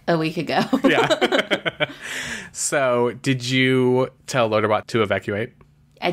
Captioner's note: laughs